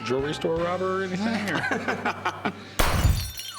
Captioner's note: laughs